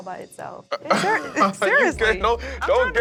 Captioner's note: laughs